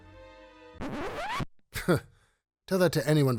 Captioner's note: record scratching; narrator scoffing